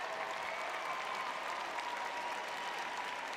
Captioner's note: audience cheering